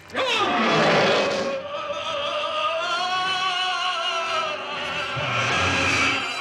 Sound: Donald growls; Peter yelling

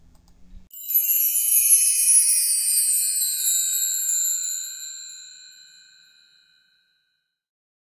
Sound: chimes

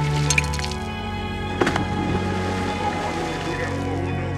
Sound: splash

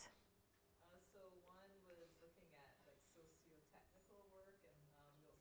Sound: student speaking faintly

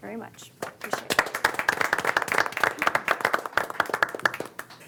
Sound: group applauding

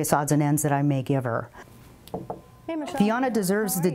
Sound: knocks

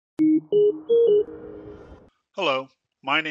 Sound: beeping

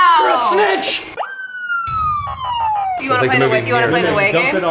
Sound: sirens roar

